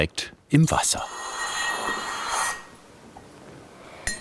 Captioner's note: hissing